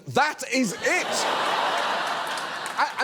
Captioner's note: studio audience laughs